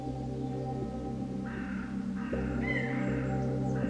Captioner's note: birds cawing